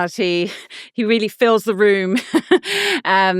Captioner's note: laughing